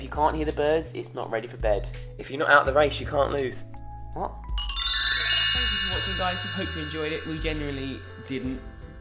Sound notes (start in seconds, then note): 4.5 chiming